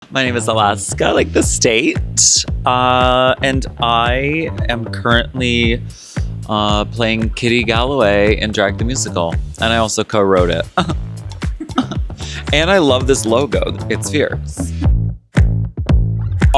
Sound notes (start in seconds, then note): 11.5 laughs; 14.4 upbeat music